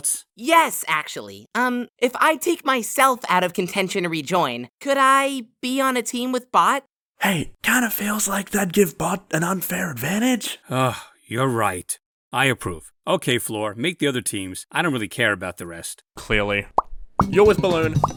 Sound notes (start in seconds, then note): 10.7 sigh